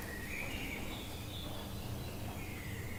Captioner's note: birds chirping